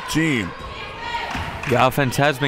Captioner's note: claps